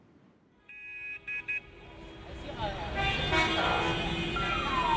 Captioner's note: traffic noises; urban noises